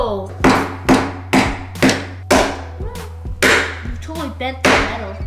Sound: hammering

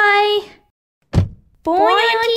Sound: slam!

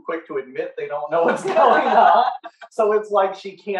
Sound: laughing

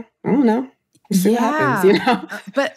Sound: laughs

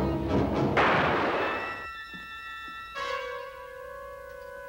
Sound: gun shot; foreboding music

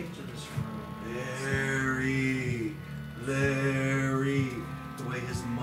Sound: ghostly moaning

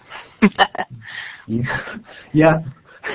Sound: chuckling

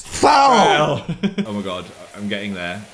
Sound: laughs

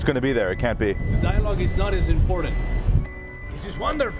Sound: beeping

